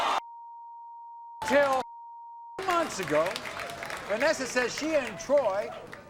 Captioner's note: audience screams; beep